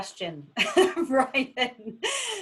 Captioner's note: laughs